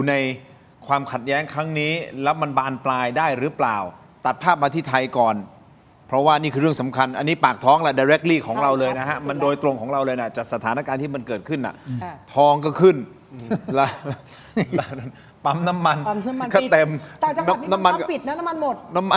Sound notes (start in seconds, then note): 13.4 laughter